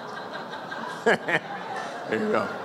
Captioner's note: silence, single woman laughing; Kimmel laughs